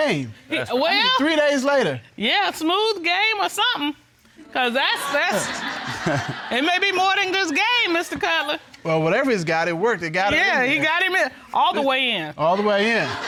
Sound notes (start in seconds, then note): 5.2 audience chuckling; 5.3 chuckling